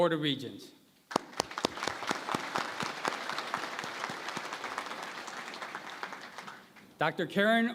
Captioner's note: applause